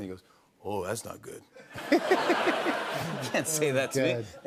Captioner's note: laughter